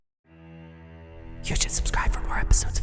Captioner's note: MatPat in an eerie, small voice